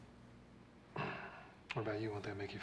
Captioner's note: clears throat